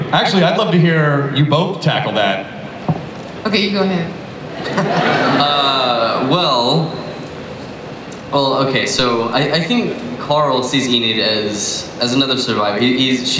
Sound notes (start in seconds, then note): 4.5 audience laughs